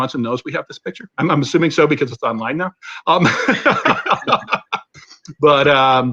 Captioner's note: laughter